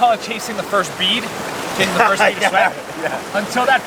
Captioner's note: laughs